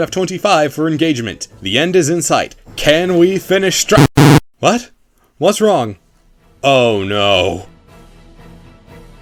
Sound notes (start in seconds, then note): 4.0 rejected Input Sound